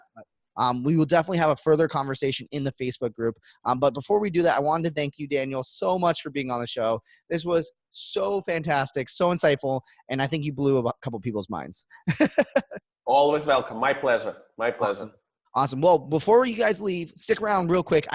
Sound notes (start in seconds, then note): 12.0 laughs